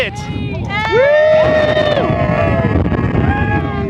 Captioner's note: team cheering